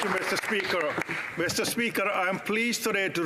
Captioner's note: applause